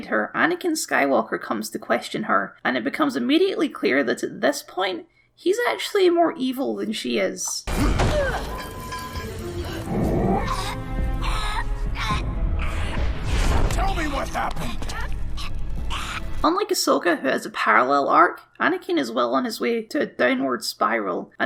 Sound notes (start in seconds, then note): 7.7 slam; 9.5 choking noises; 15.0 choking Noises